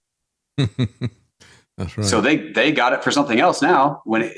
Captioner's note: laughing